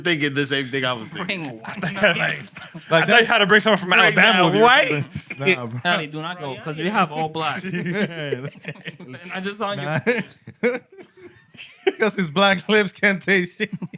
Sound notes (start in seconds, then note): 7.2 laughter